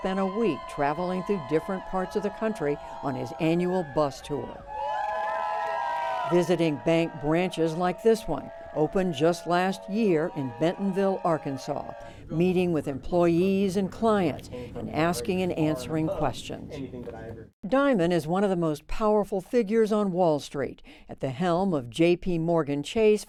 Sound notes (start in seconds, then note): 6.3 cheering; 6.3 applause